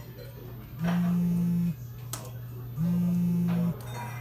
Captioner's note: phone vibrating